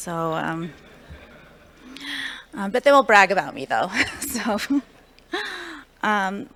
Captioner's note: laughter